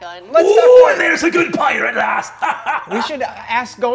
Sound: laughing

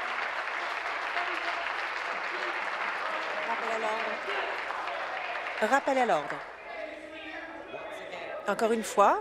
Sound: applause; voice trailing; continued applause

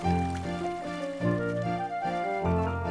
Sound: splashing

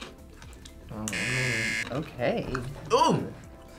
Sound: buzzer rings

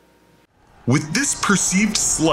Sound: men yelling

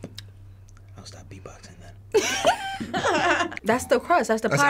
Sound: laughing

